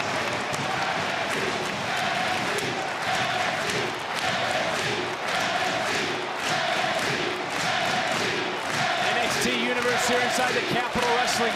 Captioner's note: crowd cheering